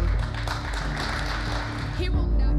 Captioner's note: audience applauds